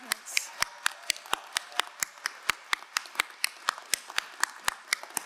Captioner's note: crowd cheering and applauding